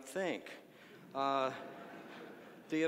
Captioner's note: audience laughing